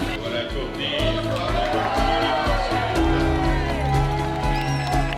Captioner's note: crowd cheers